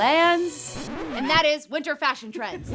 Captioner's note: record scratch